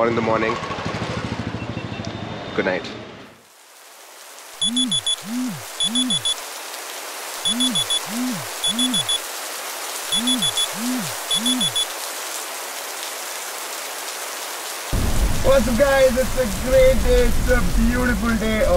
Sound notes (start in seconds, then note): 3.2 alarm ringing